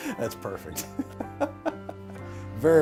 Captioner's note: chuckling